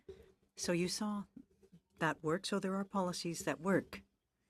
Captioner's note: speaking french